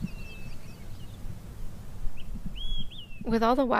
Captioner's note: Grand Mesa birds and wind in aspens